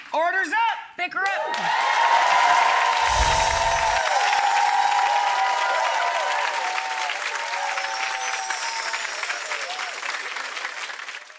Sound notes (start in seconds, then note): 1.8 applause